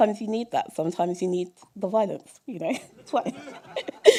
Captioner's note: laughter